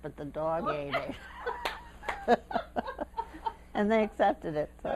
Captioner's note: laughter